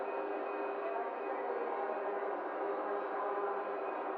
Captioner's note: machines whirring